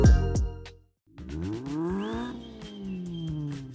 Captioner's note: engine revs